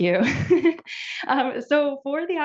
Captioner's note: laughs